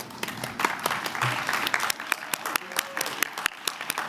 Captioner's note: applause